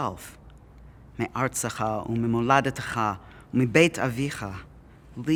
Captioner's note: Hebrew